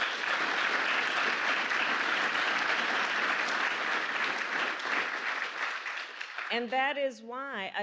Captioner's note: applause